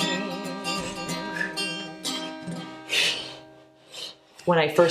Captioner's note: breathes anxiously